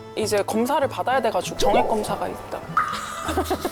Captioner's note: embarrassed sound effect